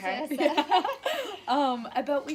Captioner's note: laughter